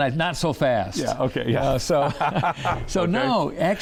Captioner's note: laughs